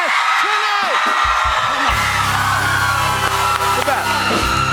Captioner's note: cheers and applause